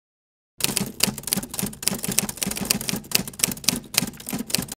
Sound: typewriter keys clacking

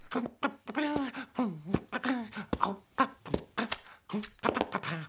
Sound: hums

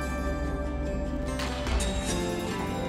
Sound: gunshot

